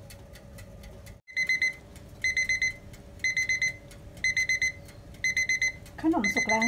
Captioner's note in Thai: เสียงนาฬิกาจับเวลาดัง